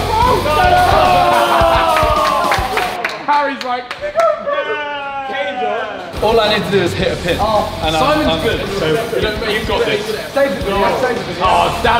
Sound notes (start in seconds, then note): 0.0 lads cheering